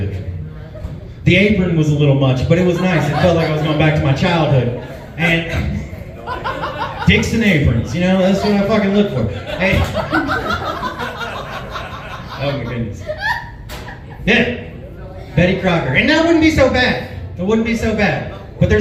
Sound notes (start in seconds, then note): 5.6 chuckles; 10.0 laughs